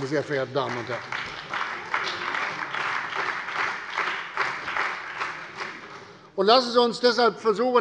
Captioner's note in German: Beifall bei der CDU und dem BÜNDNIS 90/DIE GRÜNEN